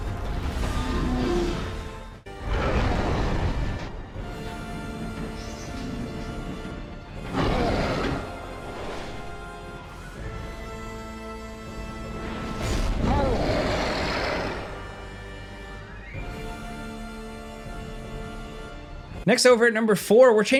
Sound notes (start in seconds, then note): 2.3 monster roars; 7.2 monster roars; 12.6 blows thuds; 12.9 monster roars